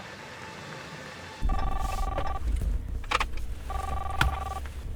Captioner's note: cellphone ringing